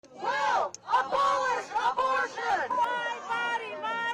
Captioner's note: crowd